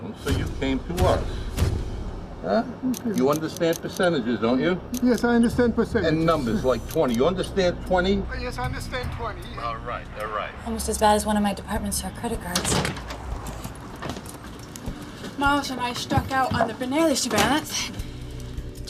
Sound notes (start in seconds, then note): 2.9 clicking of camera